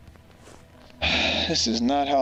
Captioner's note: sigh